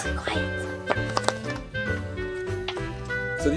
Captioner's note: popping sounds